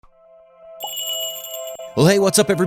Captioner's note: magical jingle